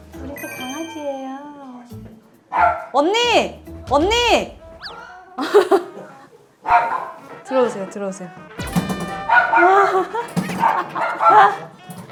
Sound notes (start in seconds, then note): 6.6 scurrying around